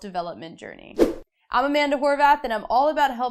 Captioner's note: air whooshing